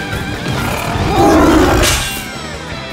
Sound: roaring

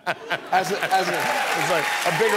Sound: applause, cheers

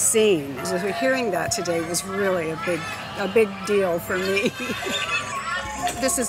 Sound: laughs

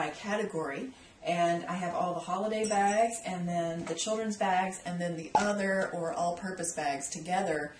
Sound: pop

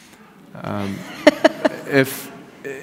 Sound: laughs

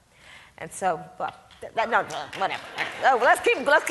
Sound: audience claps

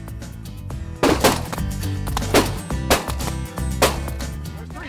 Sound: gun firing

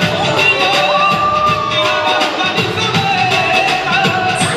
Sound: cheers

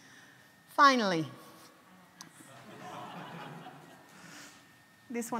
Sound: audience laughs

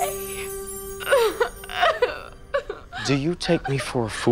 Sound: Adena continues sobbing

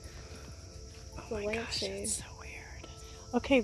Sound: whispers

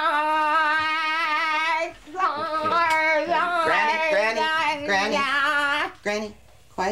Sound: molly screaming

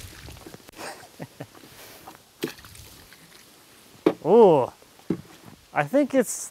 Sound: laughs

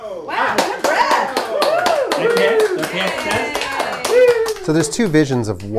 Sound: applause

